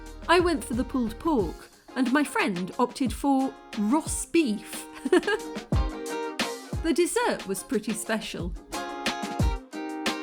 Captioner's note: laughing; chill music